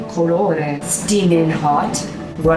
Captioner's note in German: spricht Italienisch